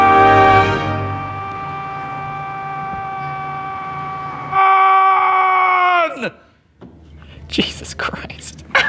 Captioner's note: screaming still audible